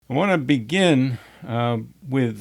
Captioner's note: sigh